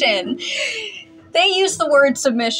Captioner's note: inhale